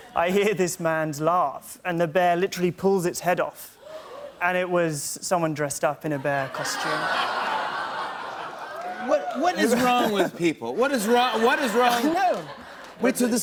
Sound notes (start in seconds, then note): 6.1 laughter